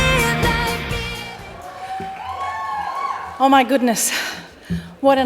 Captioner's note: cheering